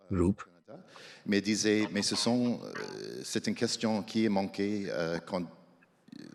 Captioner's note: speaks French